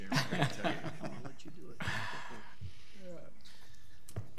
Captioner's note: laughing